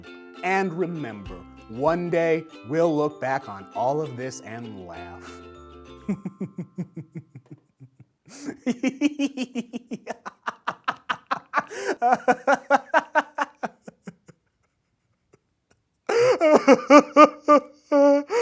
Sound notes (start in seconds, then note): 6.0 laughter; 14.5 crying